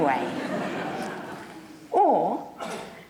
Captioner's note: audience laughs